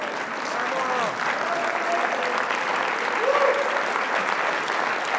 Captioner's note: applause